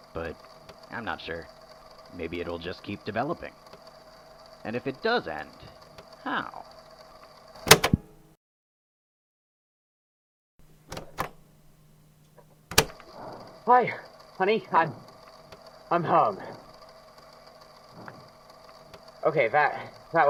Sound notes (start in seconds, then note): 12.7 click; 13.1 two sets of ragged breathing